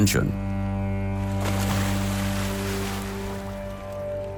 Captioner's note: anchor splashes